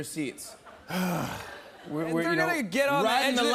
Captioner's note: groans